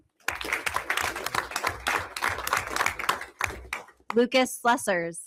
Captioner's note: everyone applauds